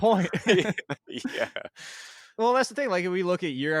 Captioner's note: laughs